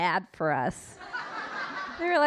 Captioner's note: audience laughing